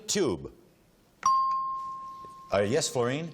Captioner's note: dings